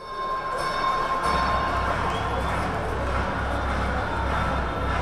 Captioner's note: bell ringing; crowd talking